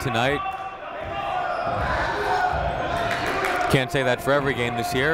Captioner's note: people shouting in the crowd